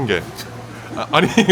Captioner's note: scoffs